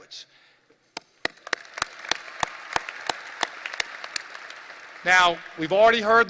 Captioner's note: audience applause